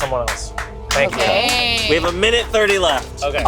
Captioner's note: crew members applauding